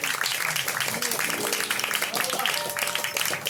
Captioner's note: applause